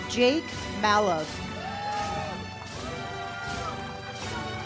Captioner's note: audience cheers; uplifting music